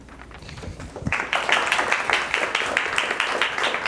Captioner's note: applauding